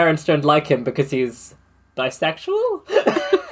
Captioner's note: laughs